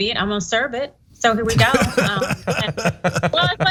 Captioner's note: laugh